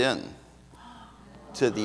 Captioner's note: audience gasps